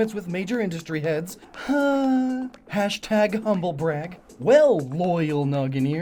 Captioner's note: sigh